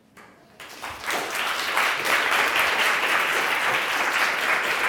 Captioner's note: audience applauding